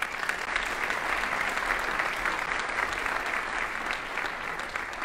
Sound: audience applauding

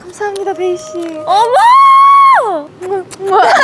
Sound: screams

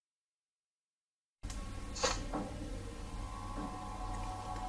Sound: game console sounds

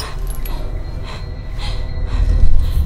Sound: panting

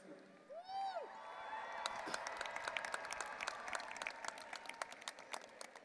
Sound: audience applauding and cheering

